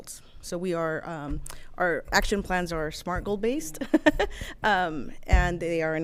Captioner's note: giggles